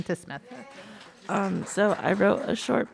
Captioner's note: audience applauding